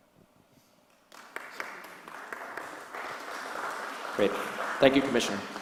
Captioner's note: applause